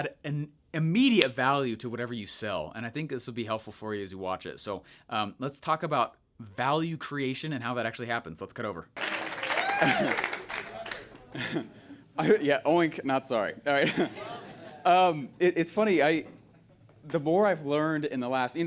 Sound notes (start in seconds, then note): 9.4 laughs